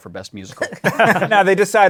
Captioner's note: laughter